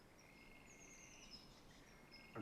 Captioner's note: bird chirp